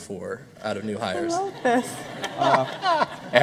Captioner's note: laughter